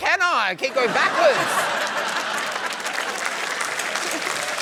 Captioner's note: laughter